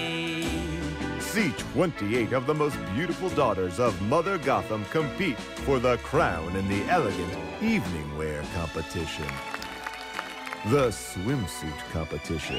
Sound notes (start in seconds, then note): 8.4 polite applause